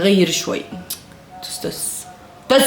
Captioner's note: tsk